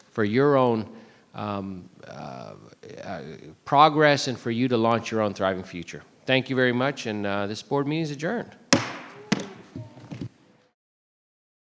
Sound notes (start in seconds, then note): 8.7 gavel banging